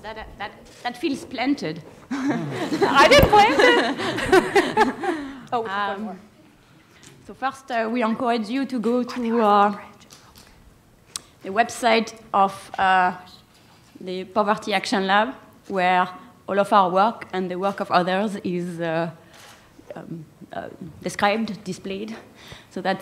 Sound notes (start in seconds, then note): 2.1 laughter